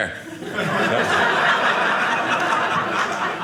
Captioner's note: audience laughing